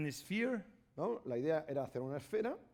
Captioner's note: speaking spanish